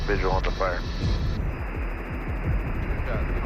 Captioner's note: static hissing